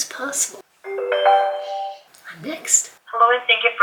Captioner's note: computer chimes